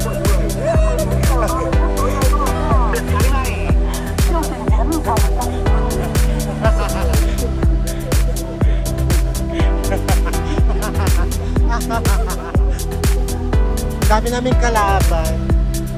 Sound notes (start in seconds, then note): 0.9 foreign; 1.0 traffic noise; 1.6 foreign; 1.6 laughing; 1.6 traffic noise